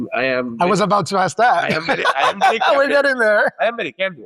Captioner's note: laughs